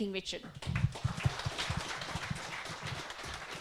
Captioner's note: audience claps